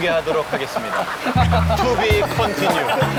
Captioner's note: laughing